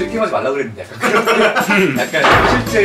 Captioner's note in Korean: 웃음소리